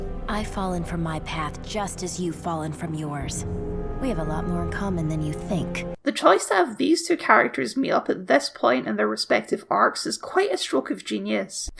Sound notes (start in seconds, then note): none